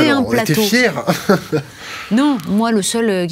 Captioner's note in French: Rires